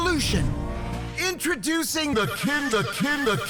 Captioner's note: voice distorts